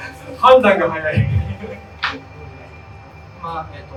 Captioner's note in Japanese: 会場：笑